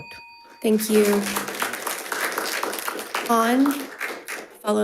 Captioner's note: crowd applauding